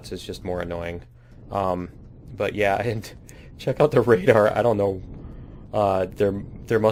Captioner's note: laughs